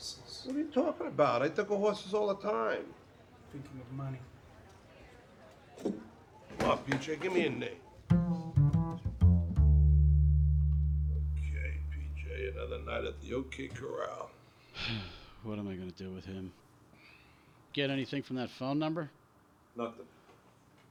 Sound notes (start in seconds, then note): 8.0 light acoustic strings music; 14.6 sighing